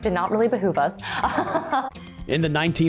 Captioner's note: laughing